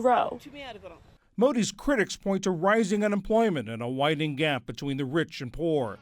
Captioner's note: voice-over